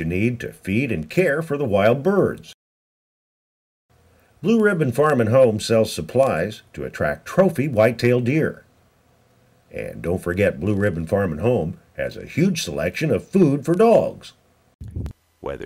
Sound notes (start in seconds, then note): none